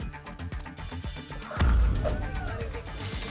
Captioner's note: thump